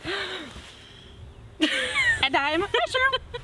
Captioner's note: laughs